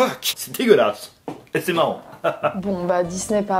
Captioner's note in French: rire